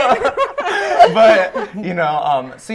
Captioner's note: laughter; laughing